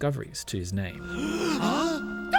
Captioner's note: gasp!